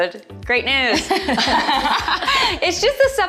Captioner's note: laughing